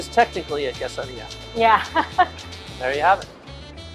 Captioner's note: laughs